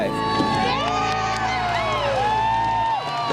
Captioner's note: cheering